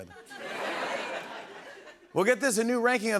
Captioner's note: laughter